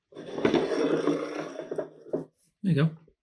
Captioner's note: plate scraping